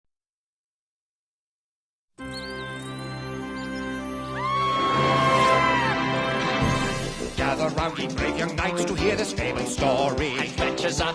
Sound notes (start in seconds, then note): 4.3 screaming